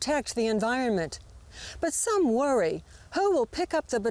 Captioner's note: none